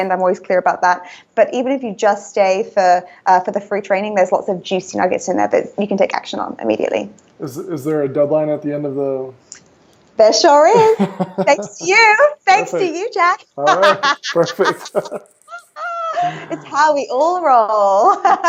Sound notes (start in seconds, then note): 13.6 laughing